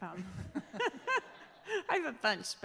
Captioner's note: all laughing